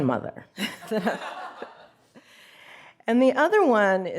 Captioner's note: audience laughs